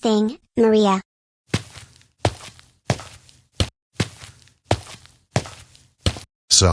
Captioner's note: footsteps